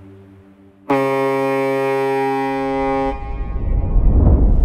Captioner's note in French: Klaxon de navire